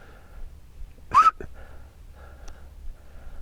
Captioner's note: whistles